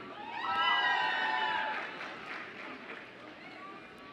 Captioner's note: audience cheers